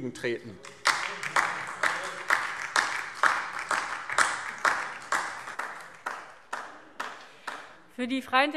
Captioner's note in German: Beifall DIE LINKE und vereinzelt SPD